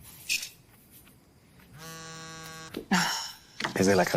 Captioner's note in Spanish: Vibra el celular